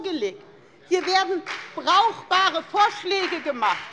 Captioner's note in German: Beifall bei der FDP